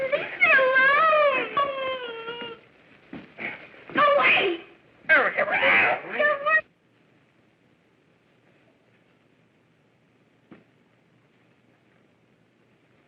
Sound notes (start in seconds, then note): 2.6 whimpering; 8.0 yelping